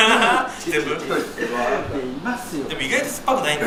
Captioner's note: laughs